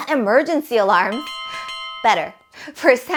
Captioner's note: bell sound